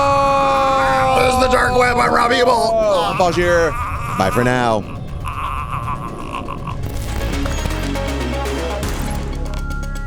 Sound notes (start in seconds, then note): 5.6 wailing; 7.1 upbeat music